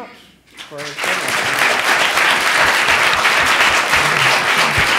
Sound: applause

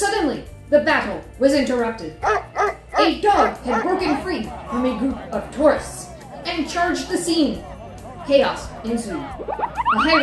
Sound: woof!

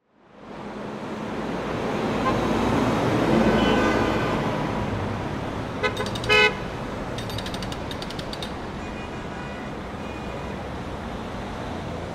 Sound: sounds of traffic, honking, and construction outside

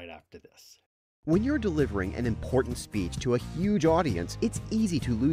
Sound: voiceover

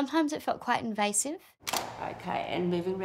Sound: camera clicks

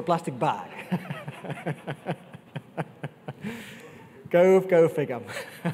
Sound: laughs

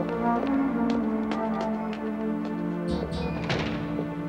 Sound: footsteps thudding

